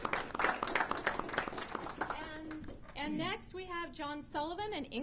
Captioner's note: applause